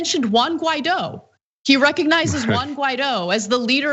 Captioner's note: laugh